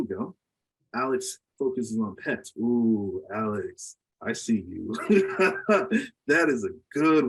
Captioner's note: laughs